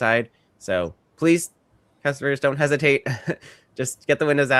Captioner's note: chuckles